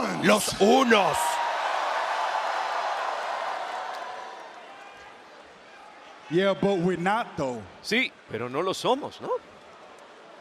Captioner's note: applause